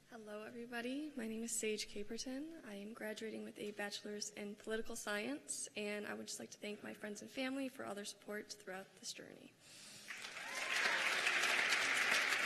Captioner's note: cheers and applause